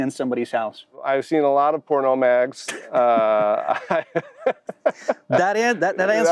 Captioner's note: laughing